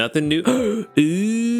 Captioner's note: gasps